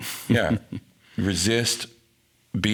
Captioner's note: laughing